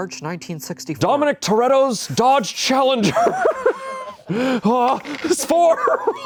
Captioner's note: laughs